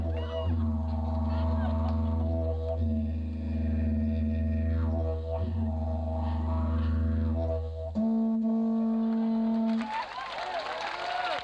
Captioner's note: crowd cheering